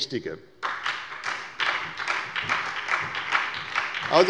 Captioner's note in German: Beifall bei der SPD